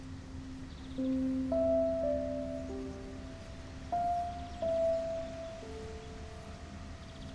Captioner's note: sentimental music; birds chirping